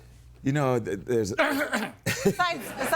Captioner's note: coughs